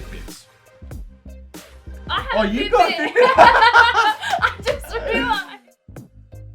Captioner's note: laughter